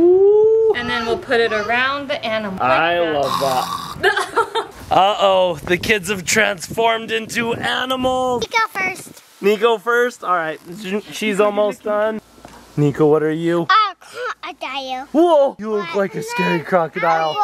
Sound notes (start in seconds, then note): 3.2 chokes; 3.9 mom laughs